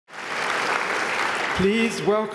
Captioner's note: applause